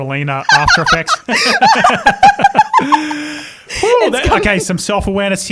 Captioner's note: both laugh